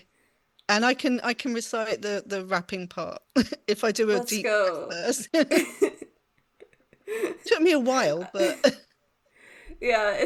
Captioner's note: laughs